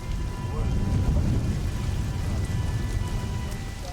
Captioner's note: sound of wind